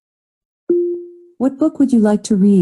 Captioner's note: electronic beep